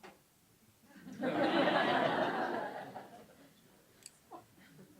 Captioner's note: audience laughing